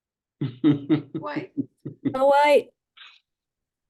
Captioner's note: laughing